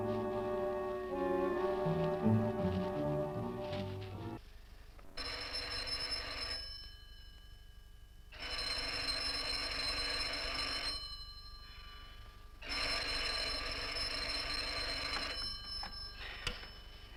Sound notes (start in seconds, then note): 5.3 phone ringing